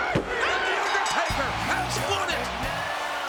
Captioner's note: bell rings